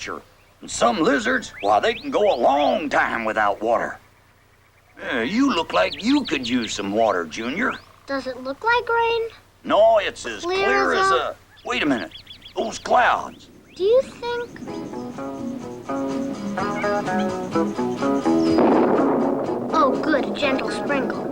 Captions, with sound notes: SOME LIZARDS CAN GO A LONG TIME WITHOUT TER. LOOKS LIKE YOU COULD USE WATER. DOES IT LOOK LIKE RAIN? NO, IT'S AS CLEAR AS A-- THOSE CLOUDS. [THUNDER] GOOD. A GENTLE SPRINKLE.